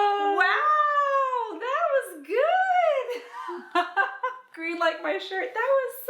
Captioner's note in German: lacht